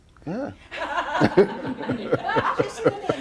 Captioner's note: laughs